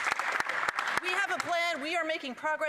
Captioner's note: applause